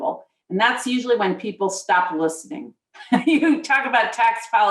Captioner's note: laughs